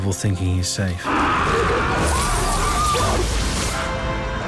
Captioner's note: all screaming